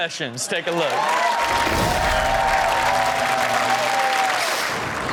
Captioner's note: audience cheers